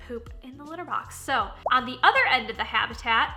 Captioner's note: popping